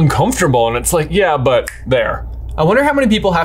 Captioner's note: snaps